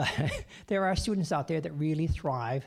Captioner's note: chuckling